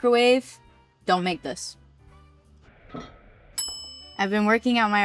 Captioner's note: bell dings